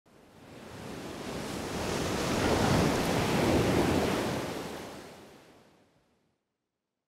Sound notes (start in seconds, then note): 0.3 waves crashing